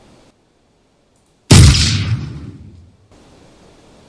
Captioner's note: gunshot